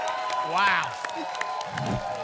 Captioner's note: applause and cheering; whoosh